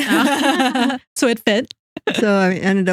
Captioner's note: both Laughing